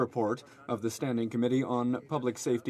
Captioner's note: speaking French